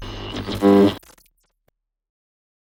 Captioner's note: static crackling